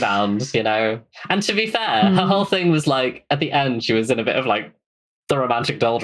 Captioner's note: laughs